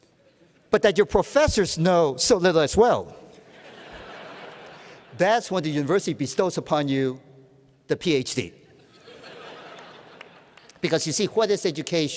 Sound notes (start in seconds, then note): 4.1 laughter